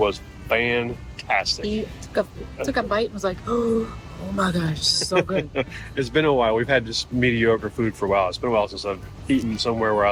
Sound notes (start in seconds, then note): 3.7 gasping; 4.9 chuckling